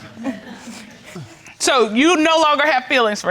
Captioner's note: chuckles